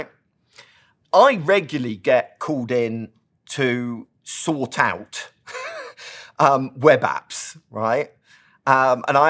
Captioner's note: laugh